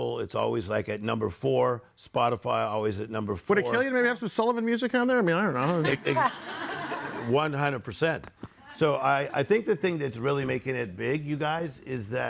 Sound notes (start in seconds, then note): 5.6 audience laughing